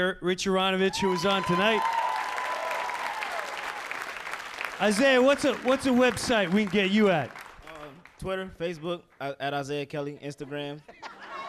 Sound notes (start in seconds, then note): 0.9 crowd cheering